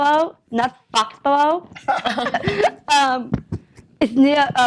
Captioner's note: laughter